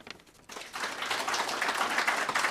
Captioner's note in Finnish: Aplodeja